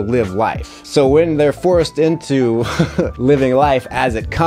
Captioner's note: laughs